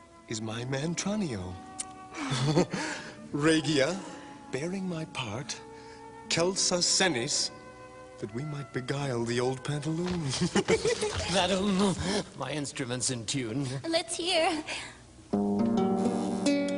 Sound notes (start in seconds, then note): 0.1 Sottovoce; 2.2 they laugh softly; 4.4 Sottovoce; 8.1 Sottovoce; 10.1 they laugh